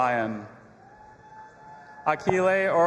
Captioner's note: audience applauding and cheering